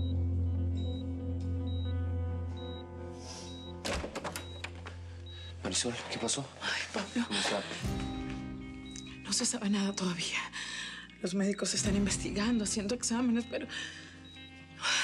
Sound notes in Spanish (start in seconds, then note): 0.8 Sonido del monitor